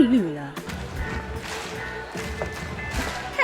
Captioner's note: rhythmic clapping